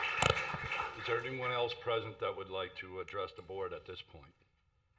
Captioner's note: applause